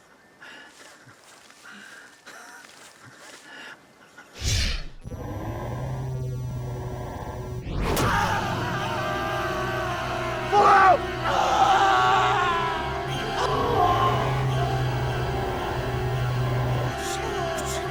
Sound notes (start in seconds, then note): 4.3 computerized humming; 6.8 Brian screams; 6.8 fleshy thunk; 10.4 Brian screams; 12.8 computerized humming